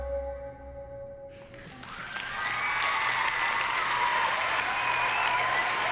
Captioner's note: cheering and applause